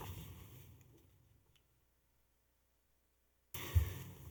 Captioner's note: rustling of papers